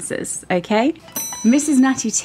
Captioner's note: bell ringing